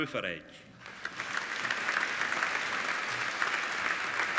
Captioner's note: applauding